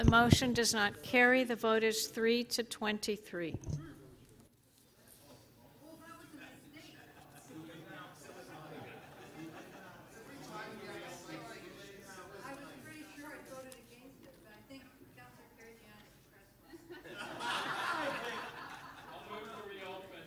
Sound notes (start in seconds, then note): 10.9 laughter